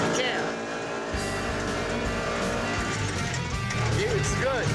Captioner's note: motor revving